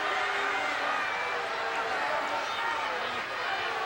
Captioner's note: crowd jeers